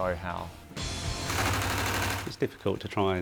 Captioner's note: machine whirring